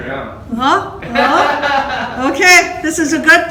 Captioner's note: laughter